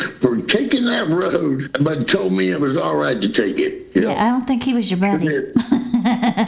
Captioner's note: laughter